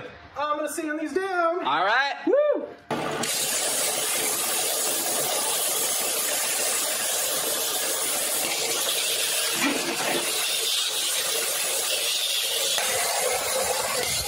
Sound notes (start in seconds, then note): 2.9 sanding the boards